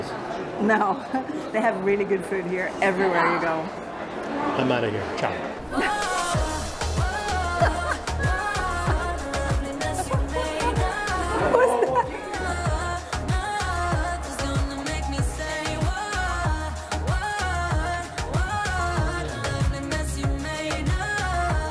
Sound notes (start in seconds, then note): 5.6 laughs